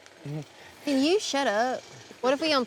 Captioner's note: getting the southern accent fever